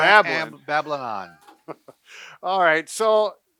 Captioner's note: laughs